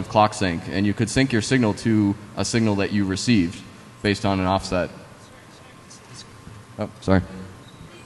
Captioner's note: off mic